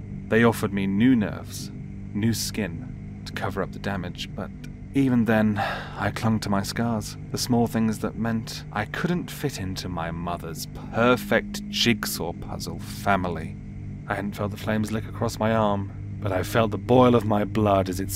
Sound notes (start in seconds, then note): 5.5 sighs